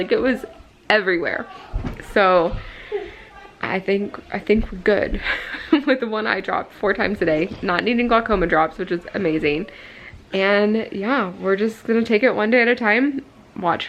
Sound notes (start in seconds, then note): 5.4 laughing